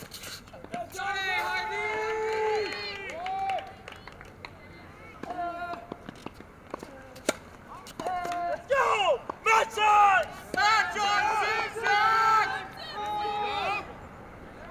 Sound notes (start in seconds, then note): 1.8 audience applauses and cheers